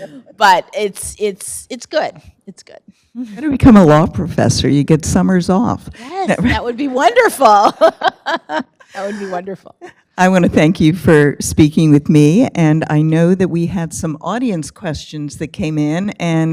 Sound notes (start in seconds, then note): 6.2 laughs